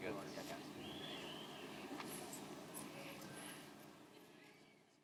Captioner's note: audience member whistling